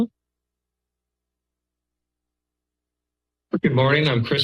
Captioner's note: silence